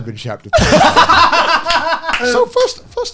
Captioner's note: laughing